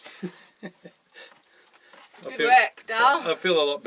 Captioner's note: laughing